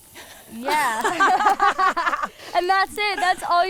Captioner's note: laughs